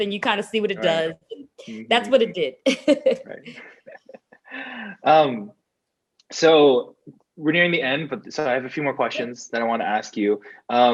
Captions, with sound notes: and you kind of see what it does. That's what it did (laughs). - So we're nearing the end, but I have a few more questions that I wanna ask you.